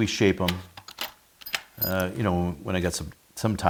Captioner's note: metal rattling